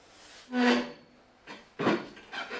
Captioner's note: stool creaks